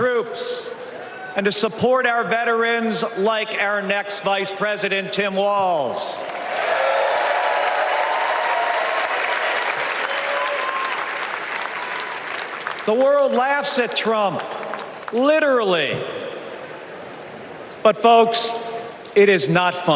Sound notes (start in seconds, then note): 3.6 applause